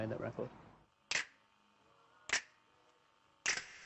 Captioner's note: clicking